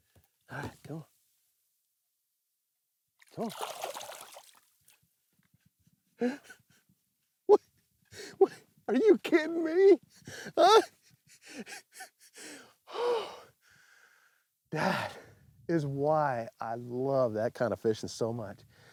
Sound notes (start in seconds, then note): 4.8 laughing; 12.6 sighs